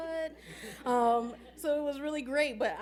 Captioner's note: laughing